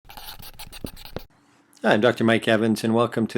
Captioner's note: sound of marker on white board